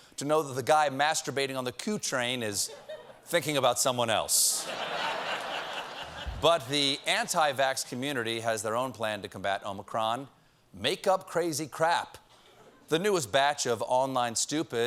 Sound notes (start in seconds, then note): 7.7 laughter